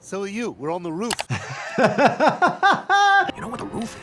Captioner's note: laughing